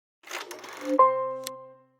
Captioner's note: film reeling; serene music